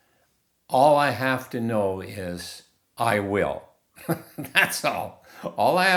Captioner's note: laughing